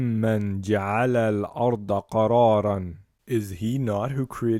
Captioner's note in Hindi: उर्दू